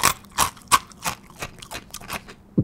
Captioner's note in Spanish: Sonidos al masticar